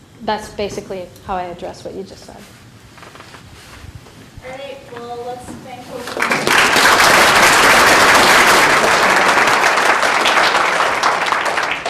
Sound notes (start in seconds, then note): 6.0 applause